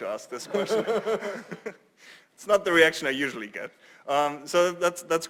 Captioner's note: laugh